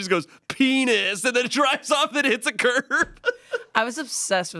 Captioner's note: laughs